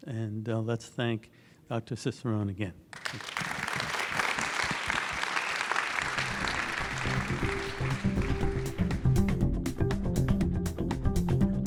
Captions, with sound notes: and let's thank Dr Cicerone again. (audience clapping) (upbeat music)